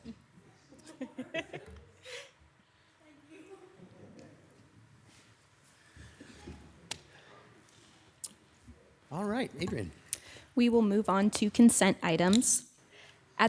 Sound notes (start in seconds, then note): 0.9 audience laughing